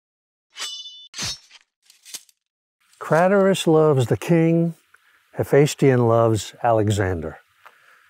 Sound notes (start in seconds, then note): 0.5 sword slashing